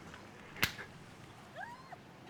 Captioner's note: snaps his fingers